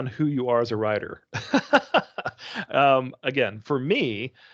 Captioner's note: laughing